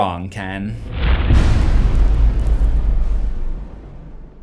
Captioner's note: impact